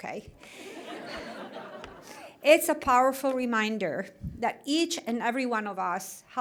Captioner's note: laughter